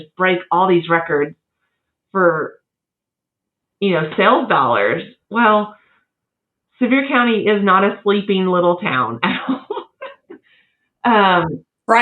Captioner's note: laugh